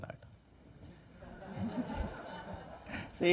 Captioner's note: laughter